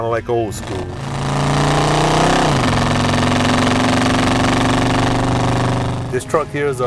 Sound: car engine roaring

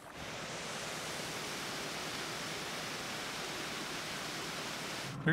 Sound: water flowing over waterfall

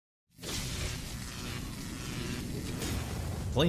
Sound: electricity

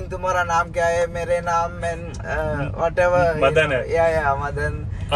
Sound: Hindi

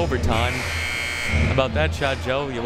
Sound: buzzer ringing

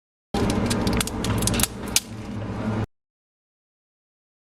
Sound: cracking sound

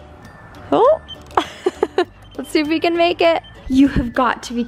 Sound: laughs

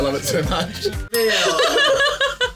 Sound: bell dinging; group laughing

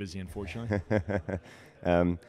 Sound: radio host chuckling

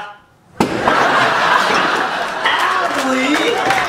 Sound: bottle bangs; audience laughing; audience applauding

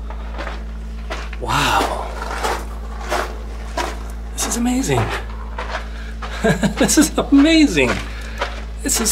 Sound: laughs

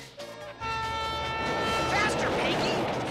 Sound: train horn blaring

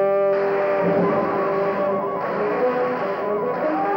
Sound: zapping; shouting

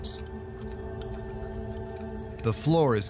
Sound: soft clinking

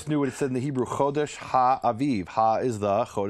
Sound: speaking in Hebrew

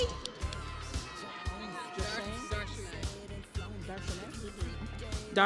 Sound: crowd cheering

